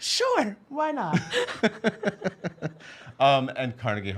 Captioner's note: laughs